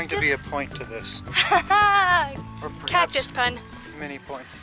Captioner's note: laughter